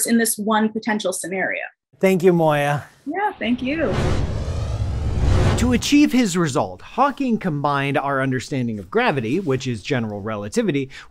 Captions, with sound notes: in this one potential scenario. - Thank you, Moya. - Yeah, thank you. [hyper speed whirs] - To achieve his result, Hawking combined our understanding of gravity, which is general relativity,